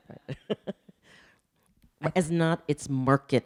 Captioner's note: laughing